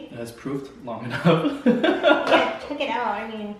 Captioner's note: laughs